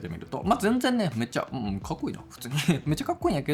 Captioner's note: laughs